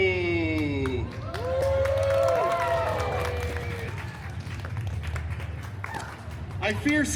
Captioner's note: guests cheering and applauding